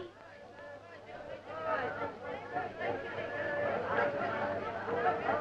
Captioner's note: townspeople clamoring